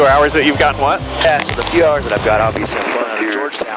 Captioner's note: loud statics